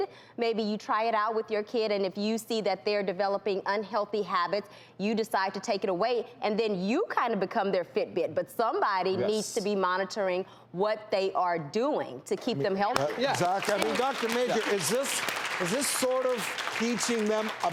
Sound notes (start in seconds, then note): 12.9 audience applauding